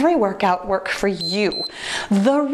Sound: timer beeps

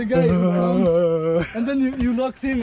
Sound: groaning

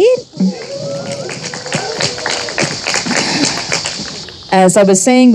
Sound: audience applauding and cheering

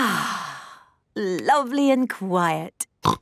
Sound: contented sigh; snorting

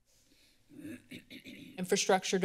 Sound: clears throat

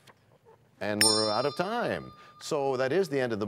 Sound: bell rings, time expires

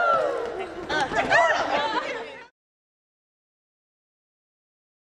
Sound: laughter

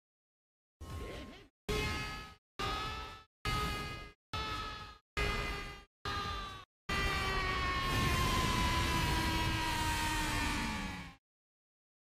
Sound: screaming intensifies

